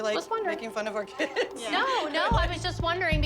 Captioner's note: laughs